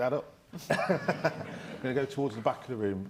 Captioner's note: all laughing